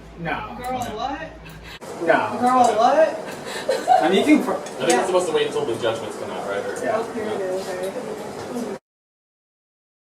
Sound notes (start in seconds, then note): 3.4 nervous giggling